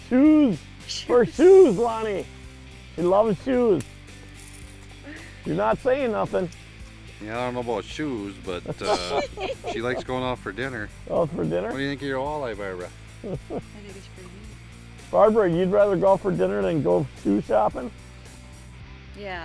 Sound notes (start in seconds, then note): 1.0 laughs